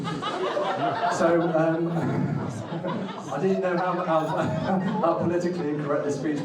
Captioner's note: audience laughing